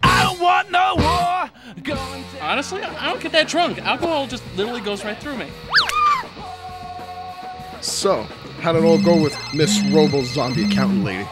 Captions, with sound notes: Honestly, I don't get that drunk! Alcohol just literally goes right through me! [WAITRESS SCREAMS] So, how'd it all go with Miss Robo-Zombie-Accountant-Lady? [PHONE RINGS]